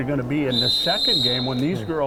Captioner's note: whistle blowing